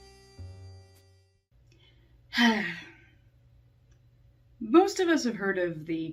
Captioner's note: sigh